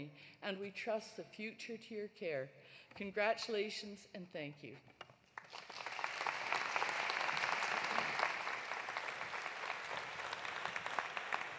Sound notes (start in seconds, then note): 5.4 audience applauding